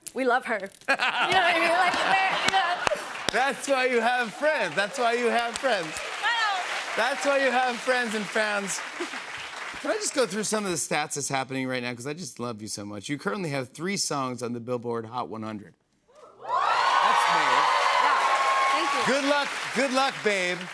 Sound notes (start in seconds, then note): 16.3 cheers and applause